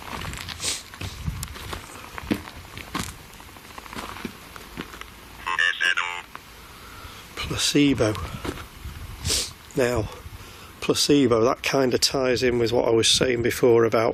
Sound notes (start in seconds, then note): 6.1 robotic Voice